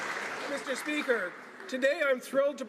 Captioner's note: some Applause